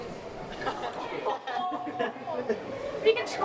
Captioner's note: laughs